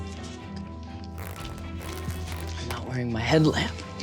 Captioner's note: latex squeaking